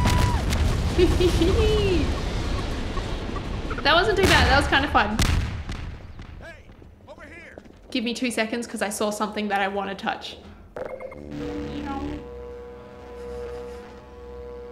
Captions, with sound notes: That wasn't too bad. That was kind of fun. Give me 2 seconds because I saw something that I want to touch. [lightning sound?]